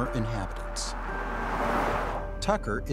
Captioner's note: truck driving past